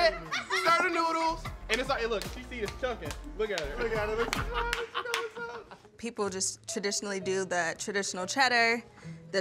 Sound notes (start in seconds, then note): 2.0 hand slapping